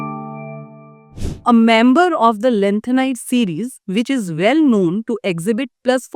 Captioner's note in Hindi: नाक से की जाने वाली आवाज़